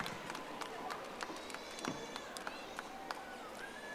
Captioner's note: audience applauding